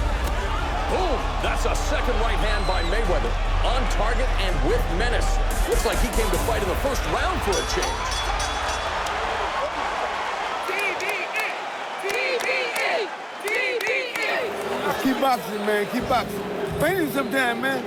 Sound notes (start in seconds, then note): 9.0 bell dings; 10.4 chanting